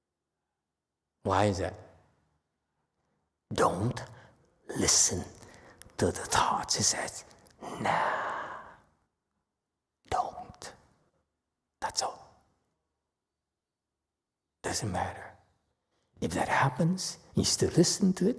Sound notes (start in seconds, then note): 6.2 whispers